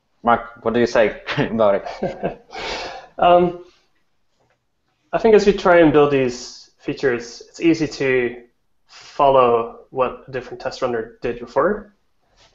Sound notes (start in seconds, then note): 1.2 laughs